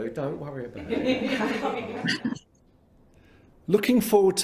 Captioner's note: all laugh